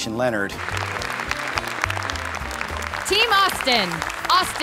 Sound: applause

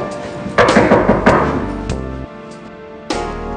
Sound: knocking

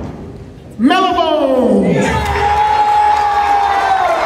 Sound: cheering and applause

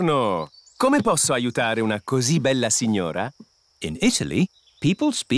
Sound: speaks italian

